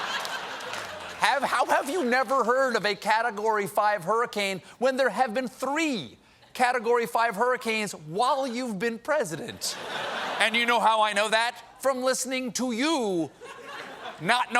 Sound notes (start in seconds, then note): 9.6 laughter